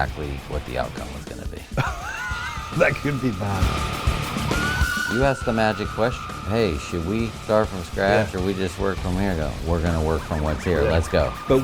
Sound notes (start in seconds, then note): 1.7 laughing; 3.5 intense music